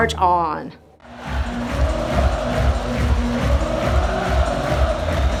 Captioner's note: crowd clapping and chanting